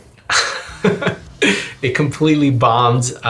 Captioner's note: laughs